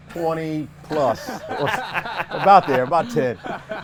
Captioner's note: everyone laughs